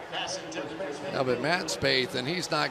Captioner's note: pa announcement